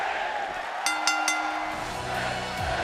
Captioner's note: crowd cheering; bell ringing